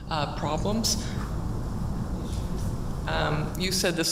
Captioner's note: speaks away from microphone